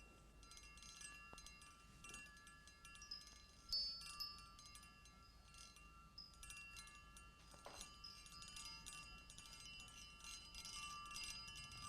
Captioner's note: glasses clinking, jet noises overhead